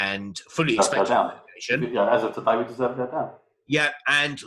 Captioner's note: murmurs